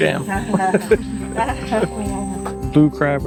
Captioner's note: laughter